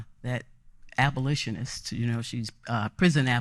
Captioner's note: none